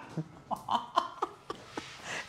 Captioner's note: laughter